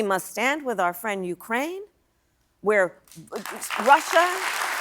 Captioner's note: applause